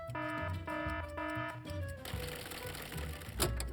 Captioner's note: alarm blaring